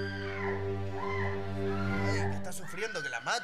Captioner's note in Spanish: LA MUJER GRlTA